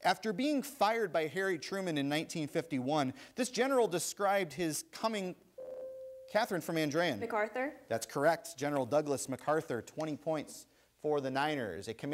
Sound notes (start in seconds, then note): 5.6 ding